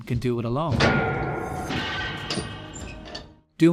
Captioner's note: heavy door opening